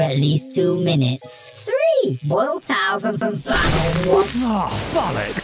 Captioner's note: Alan explodes